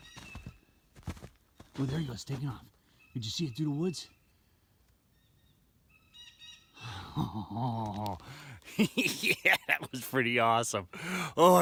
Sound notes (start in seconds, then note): 0.0 blue jays calling; 6.5 blue jays calling; 8.6 chuckling